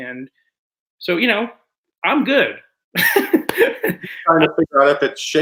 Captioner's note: chuckles